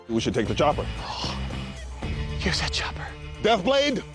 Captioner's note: gasps